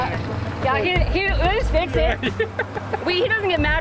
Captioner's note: laughs